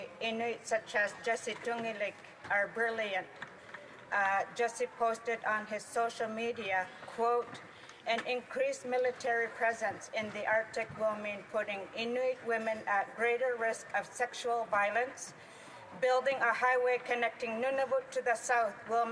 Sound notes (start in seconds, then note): 5.2 speaking Alternate Language